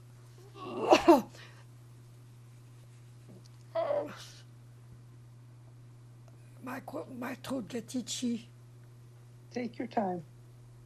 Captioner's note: coughing